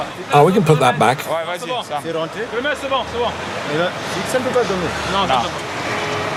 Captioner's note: foreign language